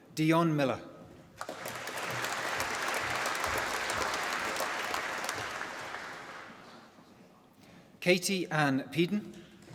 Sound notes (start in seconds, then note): 1.3 applause